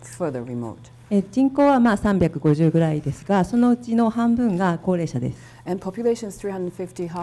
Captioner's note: speaking foreign language